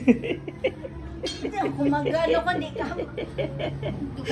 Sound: laughs histerically

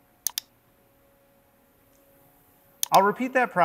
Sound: mouse clicking

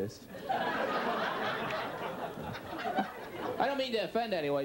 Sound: audience laughs

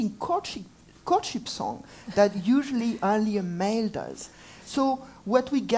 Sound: laugh

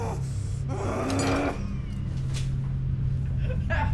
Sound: Sean groans

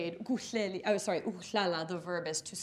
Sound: speaking in foreign language; speaks foreign language

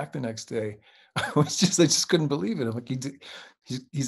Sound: chuckles

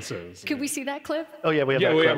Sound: laughs

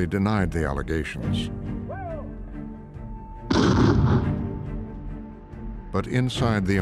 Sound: fires

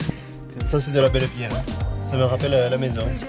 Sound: with a horrible accent from the south of France

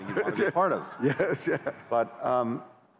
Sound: laughter

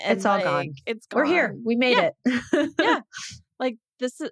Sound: laughs

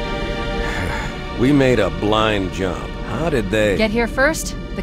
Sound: sigh

